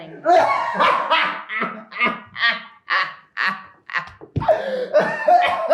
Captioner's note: Adonis cackles